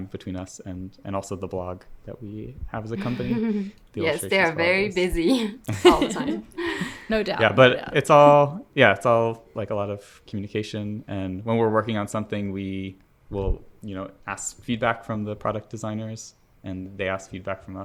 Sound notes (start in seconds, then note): 5.2 laugh